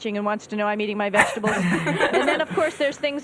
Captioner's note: laughter